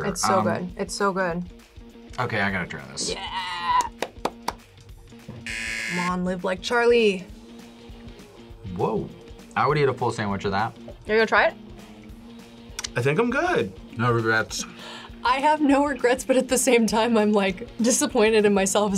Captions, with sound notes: - It's so good. It's so good. - Okay, I gotta try this. - Yeah! (claps) (buzzer) - Come on, live like Charlie. - Whoa. I would eat a full sandwich of that. - You're gonna try it? - I think I'm good. - No regrets. - I have no regrets, but at the same time, I'm disappointed in myself